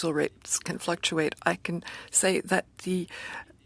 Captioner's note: speaking French